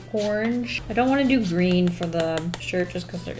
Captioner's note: tapping